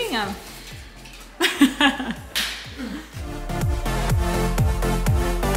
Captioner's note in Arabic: يضحك